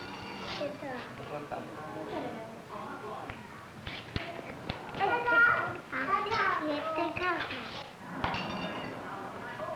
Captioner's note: Spanish speaking